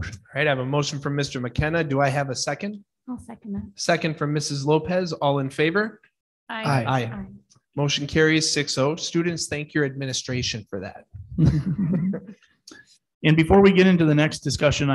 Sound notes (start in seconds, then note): 11.3 board laughs